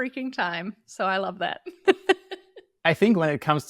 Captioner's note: laughs